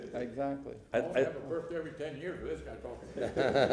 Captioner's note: laughter